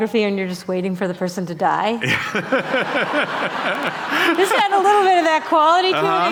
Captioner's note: laughter